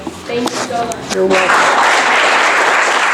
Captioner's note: audience applause